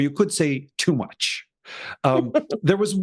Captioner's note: laugh